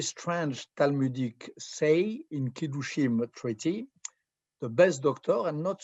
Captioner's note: hebrew